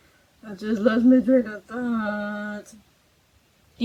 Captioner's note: nasally